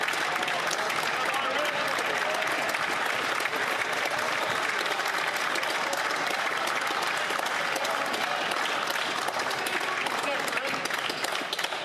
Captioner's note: some Applause